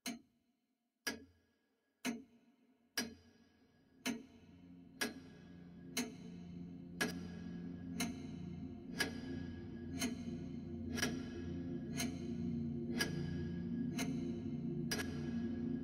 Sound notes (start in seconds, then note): 0.0 clock ticking; 2.9 ticking grows louder